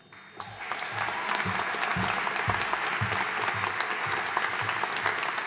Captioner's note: audience cheering and applauding